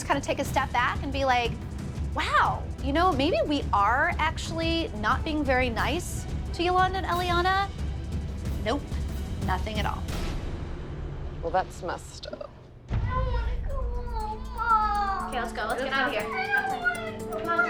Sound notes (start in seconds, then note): 13.1 crying